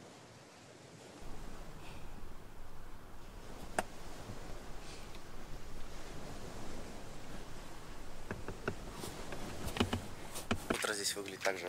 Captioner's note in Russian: шум утреннего моря